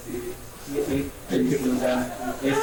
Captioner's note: mingled audience responses